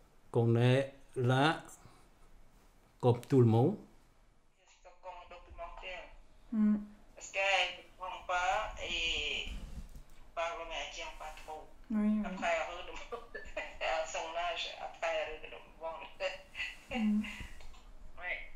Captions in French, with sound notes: Qu'on est là Comme tout le monde. (conversation téléphonique) Hum Parce qu’elle comprend pas, et On parle mais elle retient pas trop Oui oui Après elle redemande (rires), À son âge, après elle redemande (rires). Hum Oui